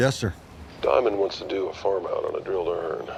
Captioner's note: on phone